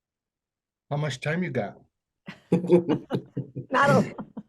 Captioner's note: laughs